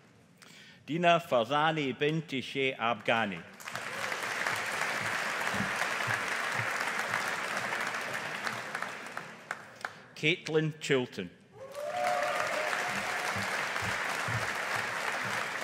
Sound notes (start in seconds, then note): 3.6 audience applauding; 11.6 audience applauding